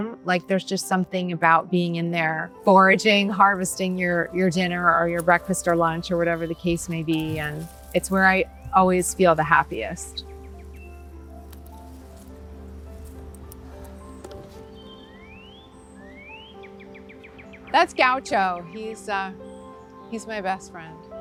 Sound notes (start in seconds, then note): 10.6 birds chirping; 10.6 gentle music continues